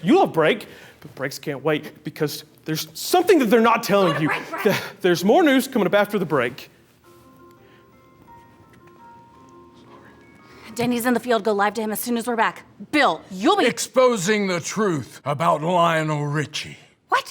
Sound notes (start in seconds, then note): 7.0 whimsical music; 9.5 whispers